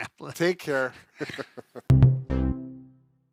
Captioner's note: laughs; gentle keyboard notes